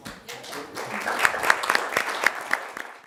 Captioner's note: applause